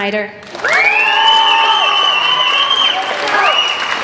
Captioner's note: applauding